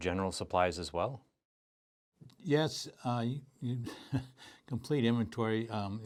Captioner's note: laughs